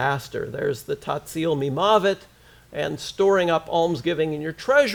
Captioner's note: foreign language